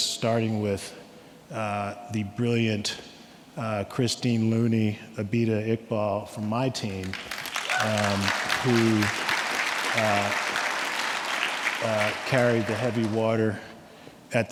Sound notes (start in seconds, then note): 6.9 audience clapping